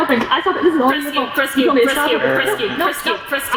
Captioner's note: sigh